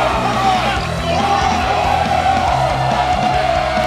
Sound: cheering

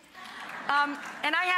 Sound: audience laughing, applauding

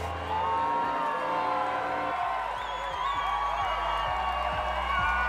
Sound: crowd cheers

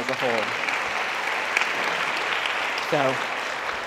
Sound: audience applauds

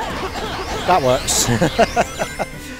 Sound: laughter

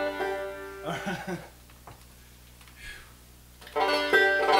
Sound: chuckles; banjo strumming

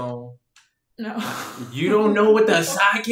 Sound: laughs

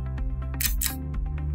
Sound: click

